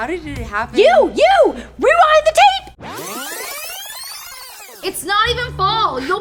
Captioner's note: rewind noise